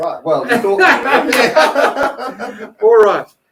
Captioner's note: everyone laughing